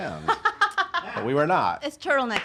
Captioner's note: laughs